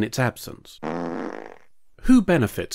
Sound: fart noise

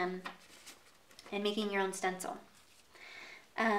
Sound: paper rustling

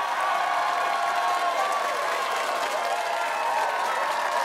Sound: cheers and applause

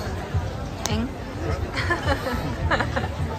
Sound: laughing

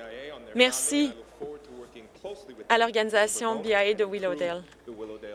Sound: speaking Alternate Language

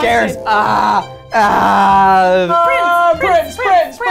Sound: man growling

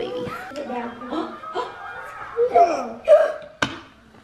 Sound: gasps

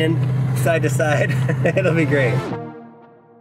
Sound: chuckles

